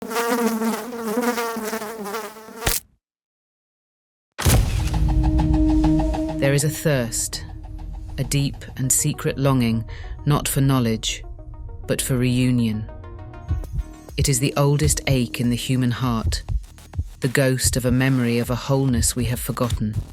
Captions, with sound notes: (fly buzzing) (fly splatting) (dramatic techno music) There is a thirst, a deep and secret longing not for knowledge, but for reunion. It is the oldest ache in the human heart, the ghost of a memory of a wholeness we have forgotten.